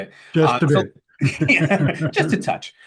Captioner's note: laughs